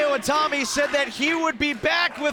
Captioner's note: fans chanting